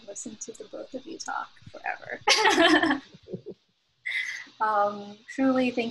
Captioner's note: laughter